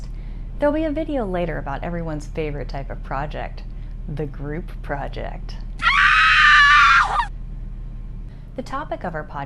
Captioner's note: scream